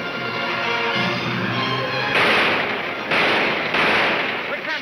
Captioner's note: gunshots banging